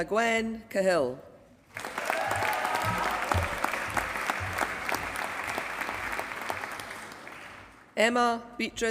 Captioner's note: applause